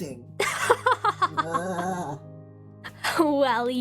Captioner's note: ROSE laughs